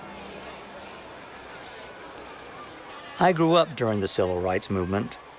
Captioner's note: crowd chattering